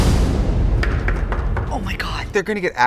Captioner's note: tense music; door knocks